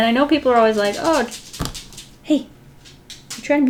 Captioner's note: Pawsha scuffling